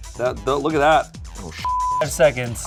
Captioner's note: beep